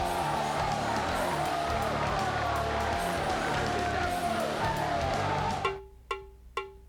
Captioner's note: upbeat music continues; audience cheering; drum music